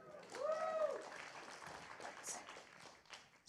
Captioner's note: applause